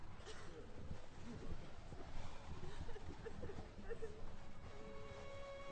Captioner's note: sounds of people coughing and crying